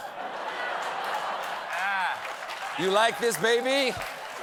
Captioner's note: laughter; applause